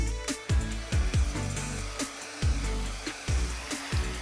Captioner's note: blower hissing